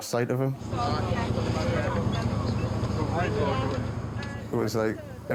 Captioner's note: people chattering